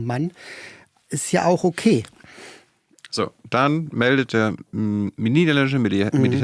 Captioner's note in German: none